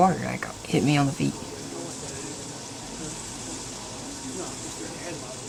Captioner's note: chatter